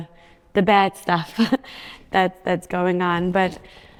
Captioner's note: chuckles